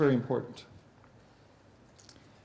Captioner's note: pause